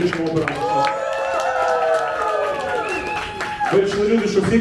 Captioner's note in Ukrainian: Оплески і вигуки